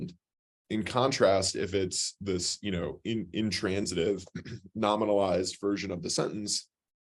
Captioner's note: cough